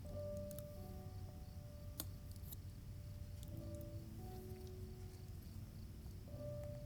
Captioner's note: gentle music; insect chirping continues